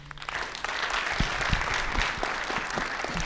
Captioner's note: applause